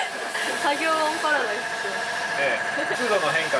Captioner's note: sorry for the loud working noise